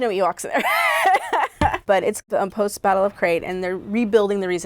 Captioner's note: laughs